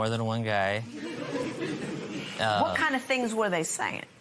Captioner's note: laughter